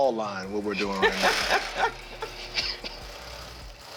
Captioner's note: laughs